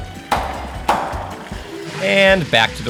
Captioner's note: hand thudding